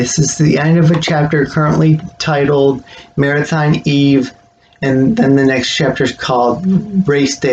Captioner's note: click